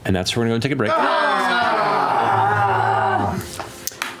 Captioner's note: groaning